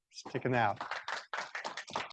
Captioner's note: audience applauds